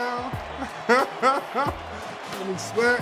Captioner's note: laughing